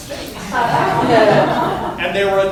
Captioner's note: laughter